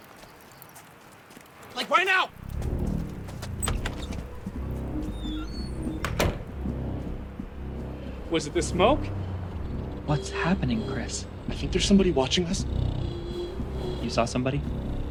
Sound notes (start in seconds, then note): 3.4 door hinges creak